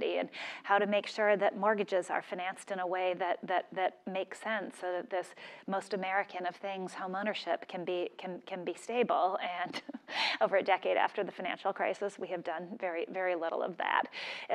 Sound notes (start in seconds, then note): 9.6 laugh